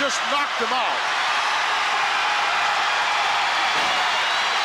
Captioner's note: crowd cheers